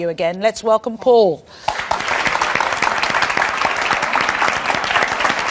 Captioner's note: audience applauds